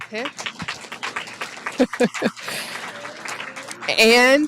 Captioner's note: applause